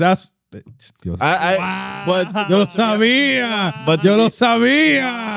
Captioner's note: speaking In Foreign Language